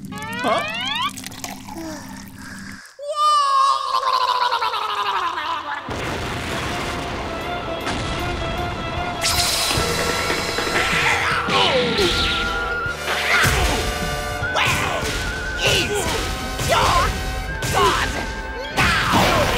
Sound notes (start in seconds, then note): 4.0 gurgling